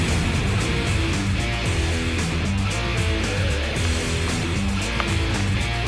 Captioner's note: click of gun being handled